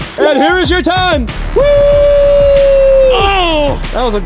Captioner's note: cheering